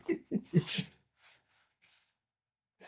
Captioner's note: laughing